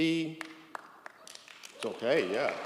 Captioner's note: audience applauds